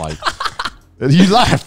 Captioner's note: laugh